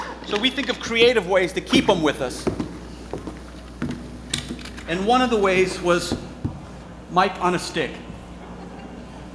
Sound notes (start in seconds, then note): 0.0 objects clattering; 1.6 footsteps thudding